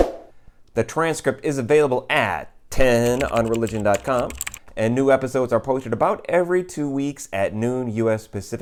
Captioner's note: keyboard typing